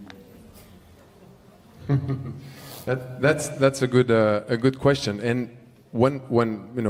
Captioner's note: laughs